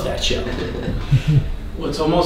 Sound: laughing

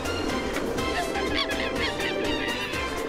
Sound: monkey cries

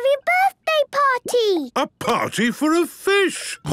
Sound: snorting

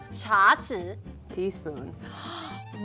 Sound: speaking in mandarin

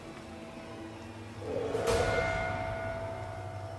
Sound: distant growl

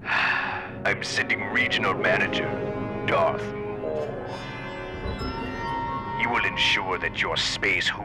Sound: sigh

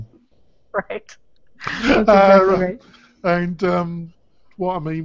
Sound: laughs

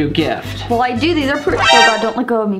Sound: mgs alert sound effect

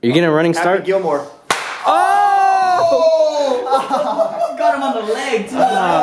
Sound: smack

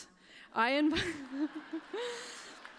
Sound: laughter

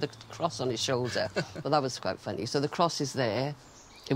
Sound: both laughing

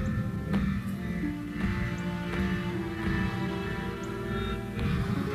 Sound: thumping

